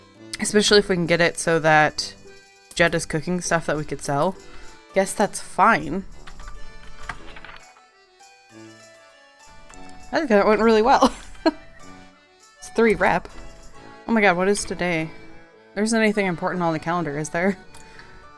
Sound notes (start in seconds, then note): 10.7 laughs